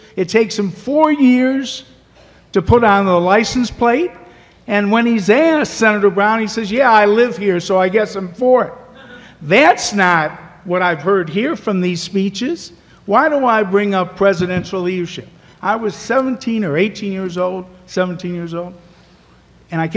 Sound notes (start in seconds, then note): none